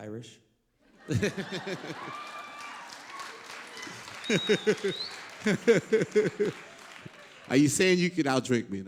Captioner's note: laughter